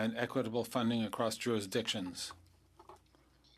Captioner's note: speaking French